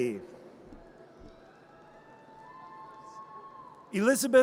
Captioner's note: audience cheers